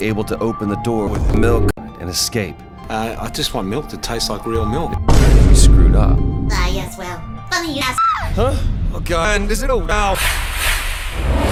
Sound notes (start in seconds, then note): 4.9 Vine boom SFX; 8.1 Luna scream